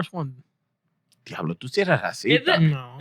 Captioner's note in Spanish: Hablando en idioma extranjero